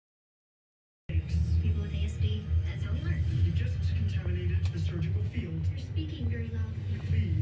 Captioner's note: TV plays in background